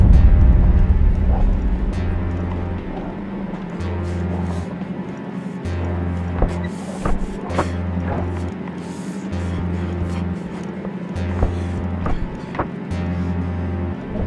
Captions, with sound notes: (tense music) (wood squeaking) - Fuck, fuck, fuck. Okay, okay.